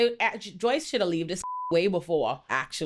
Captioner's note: beep